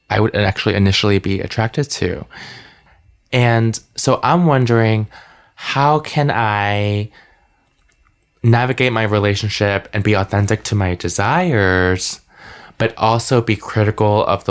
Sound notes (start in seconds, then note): none